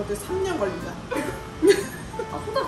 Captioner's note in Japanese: 失笑